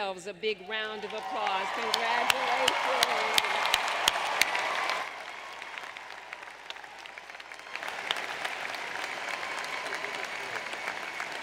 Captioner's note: applause